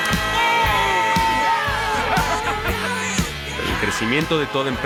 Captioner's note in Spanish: Gritos y exclamaciones